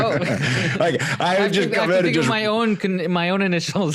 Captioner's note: laughing